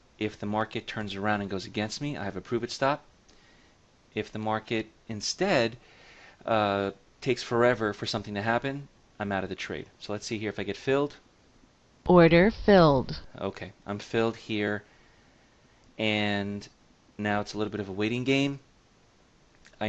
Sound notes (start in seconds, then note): 11.2 order filled sound plays